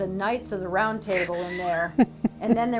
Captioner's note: laughing